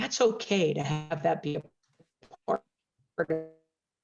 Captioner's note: mic cracking